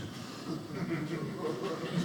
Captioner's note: audience laughing